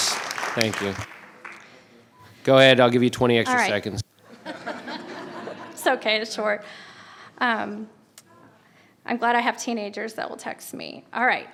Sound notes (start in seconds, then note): 4.4 laughing